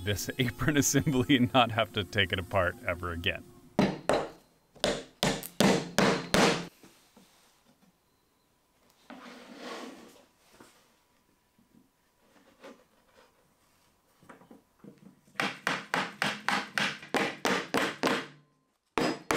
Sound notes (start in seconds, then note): 6.6 mallet being used to hammer in dowels